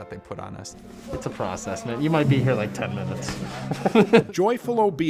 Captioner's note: laughter